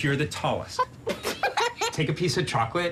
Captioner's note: laugh